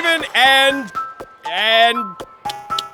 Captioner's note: smacks lips, slurps